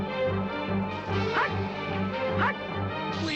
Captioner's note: dwarf barking commands; panting